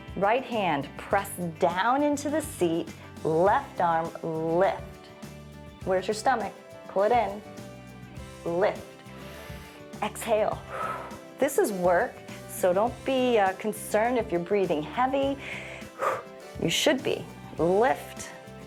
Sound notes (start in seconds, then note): 9.0 exhales; 10.6 inhales; 15.4 exhales